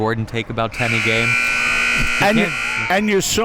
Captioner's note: buzzer rings